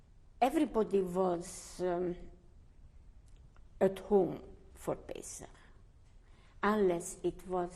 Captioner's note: pauses for 3 seconds